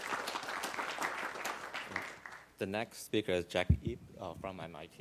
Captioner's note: applause